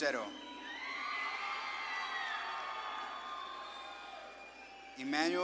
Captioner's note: audience claps and cheers